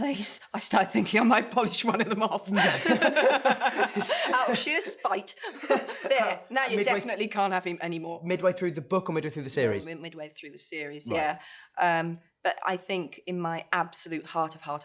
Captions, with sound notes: ... started thinking I might polish one of them off. [BOTH LAUGH] Out of sheer spite. There. Now you definitely can't have him anymore. -Midway through the book or the series? -No, midway through the series, yeah. Um, but I think in my absolute heart of heart of hearts--